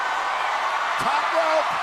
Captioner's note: crowd cheers